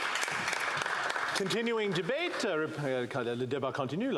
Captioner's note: applause